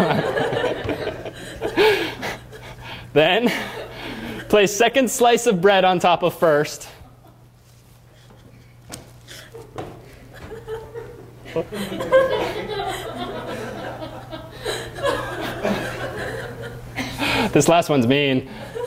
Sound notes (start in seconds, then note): 0.0 laughter; 12.2 laughter